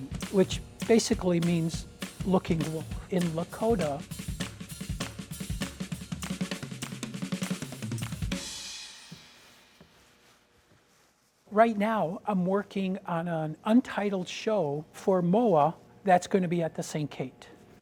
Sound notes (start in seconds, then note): 0.0 speaking in a foreign language; 4.8 light rhythmic music continues; 9.6 plastic rustling